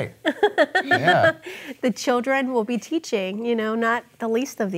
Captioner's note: chuckling